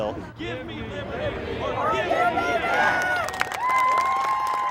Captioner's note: protesters chants